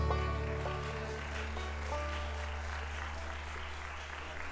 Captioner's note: audience applauding